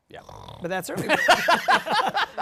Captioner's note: snores